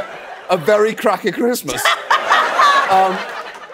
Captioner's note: laughing